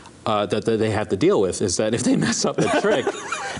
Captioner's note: laughter